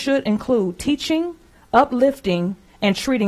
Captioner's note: none